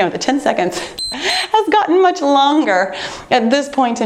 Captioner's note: timer beeps